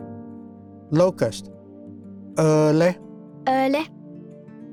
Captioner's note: repeats in Cherokee